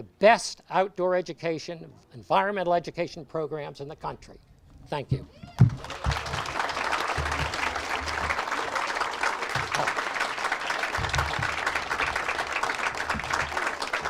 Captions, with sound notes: outdoor education, environmental education programs in the country. Thank you. (audience applauds)